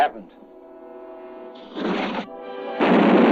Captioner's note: explosion; fuse blazing